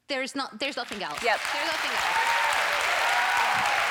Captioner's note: applause